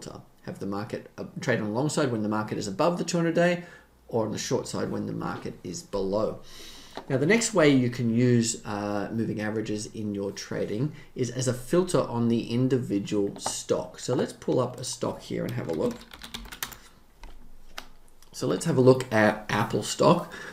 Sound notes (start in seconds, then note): 15.3 keyboard keys clacking